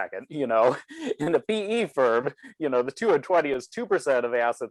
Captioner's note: laughs